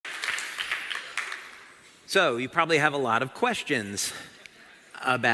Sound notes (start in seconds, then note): 0.0 เสียงปรบมือ